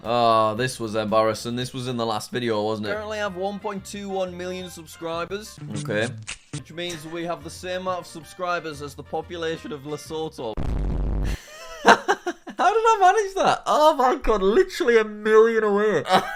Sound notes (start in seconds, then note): 11.3 laughs; 16.1 laughing